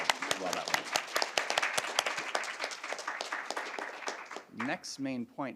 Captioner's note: applause